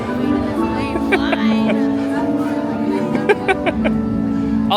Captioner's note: laughing